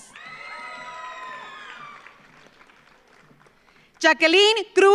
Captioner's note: audience cheers; audience applauds